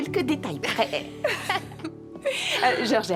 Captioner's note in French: rire